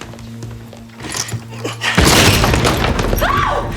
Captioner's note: thudding; screaming